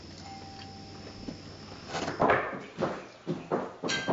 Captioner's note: doorbell ringing